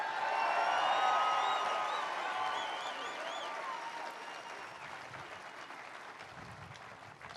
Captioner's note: applause